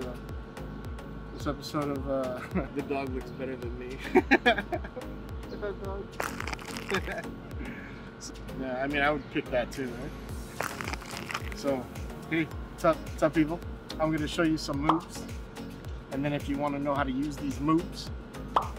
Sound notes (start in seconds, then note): 2.5 laughing; 4.0 laughs; 7.1 laughing; 10.5 crunches